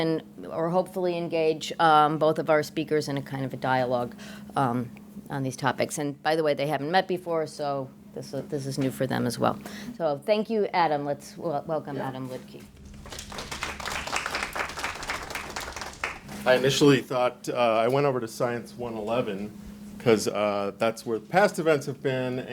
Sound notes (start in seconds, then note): 12.6 audience applauding